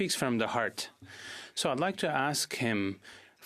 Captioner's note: speaking in French